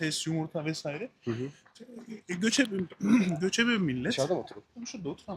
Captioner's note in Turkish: boğazını temizler